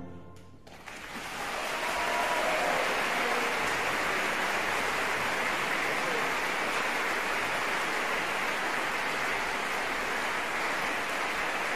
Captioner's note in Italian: applausissimo